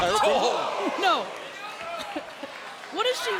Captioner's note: laughs